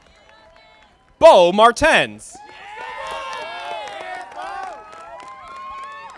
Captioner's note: audience applauding